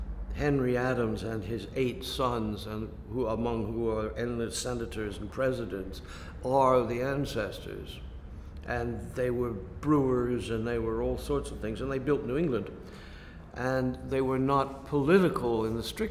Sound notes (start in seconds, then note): none